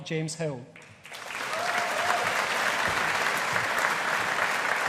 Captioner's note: audience applauding